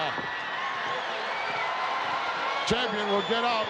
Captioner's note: crowd cheering